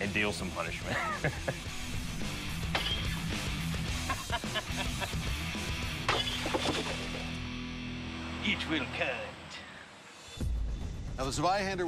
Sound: chuckles

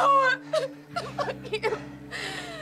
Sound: sobs

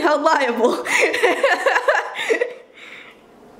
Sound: laughter

